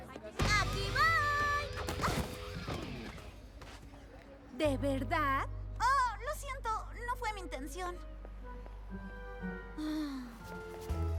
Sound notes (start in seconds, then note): 0.4 thud; 9.3 groan